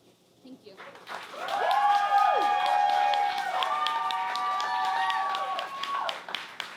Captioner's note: audience cheers and claps